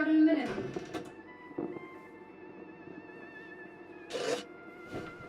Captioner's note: door closes